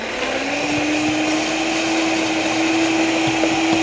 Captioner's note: blender whirring